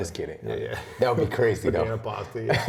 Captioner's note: laughter